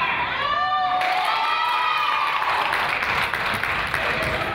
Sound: crowd applauds

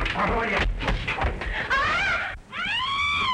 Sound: scream

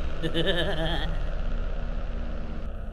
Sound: giggles

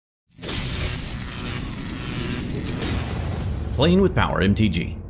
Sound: electricity crackles

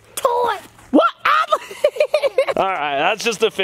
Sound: laughs

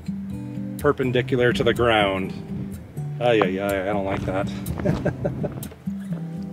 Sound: laughter

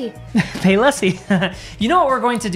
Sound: laughs

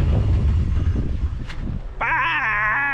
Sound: engine quits

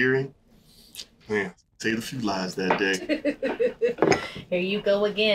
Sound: laughing

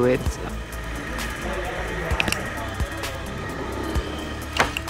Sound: motor Sound. Click, Click Sound

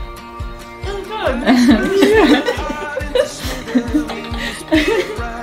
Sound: giggles

